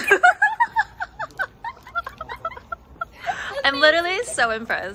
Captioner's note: laughter